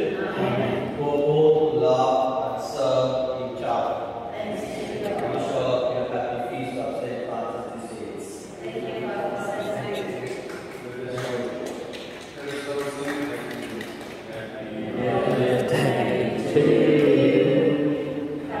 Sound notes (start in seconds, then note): 10.1 clapping